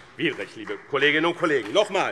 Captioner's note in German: Vereinzelter Beifall BÜNDNIS 90/DIE GRÜNEN